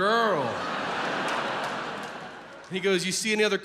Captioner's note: audience laughs